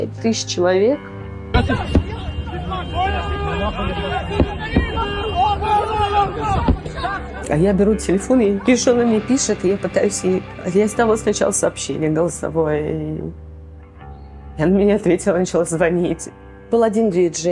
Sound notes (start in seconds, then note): 1.6 people screaming in Hebrew